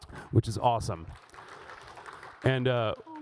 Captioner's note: audience applauds